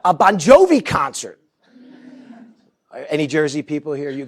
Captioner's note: laughter